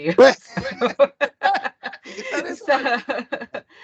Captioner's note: laughter